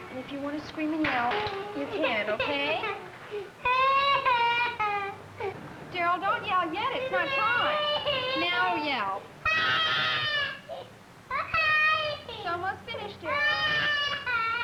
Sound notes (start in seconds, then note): 3.7 crying; 9.4 screaming